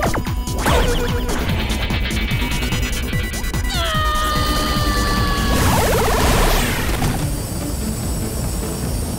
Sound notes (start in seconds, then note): 3.6 screaming